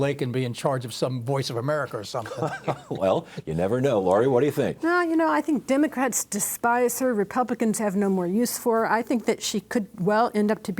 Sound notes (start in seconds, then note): 2.2 chuckles